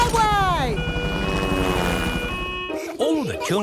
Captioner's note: siren wailing